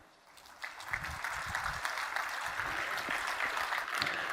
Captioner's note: audience applauding